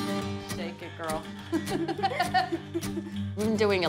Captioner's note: upbeat guitar music; both laugh